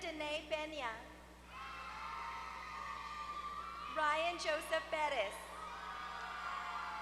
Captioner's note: applause